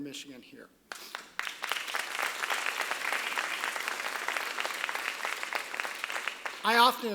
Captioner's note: applause